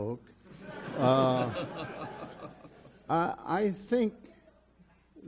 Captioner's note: audience laughs